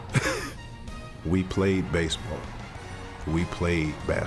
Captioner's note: laughs